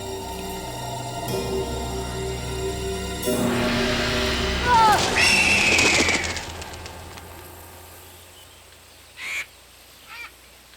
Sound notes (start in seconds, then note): 4.6 Ned screams; 4.6 vulture screams